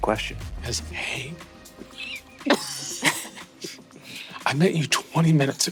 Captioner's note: players laughing